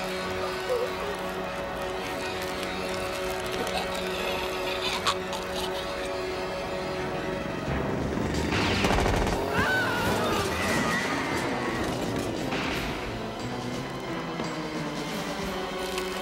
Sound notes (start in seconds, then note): 9.4 screaming